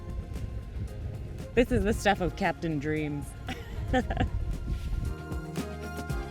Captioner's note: laughs; soft upbeat music